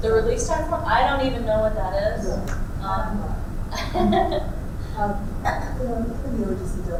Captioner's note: laughs